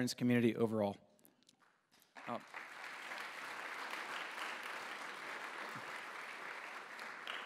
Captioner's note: applause